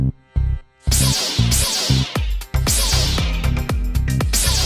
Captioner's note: swords crackling